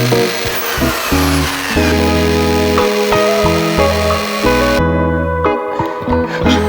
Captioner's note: drill noises